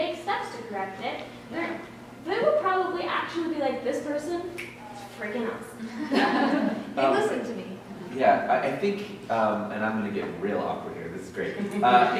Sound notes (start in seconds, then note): 4.6 snaps